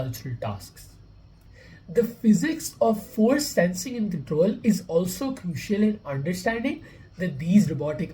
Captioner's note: voice-over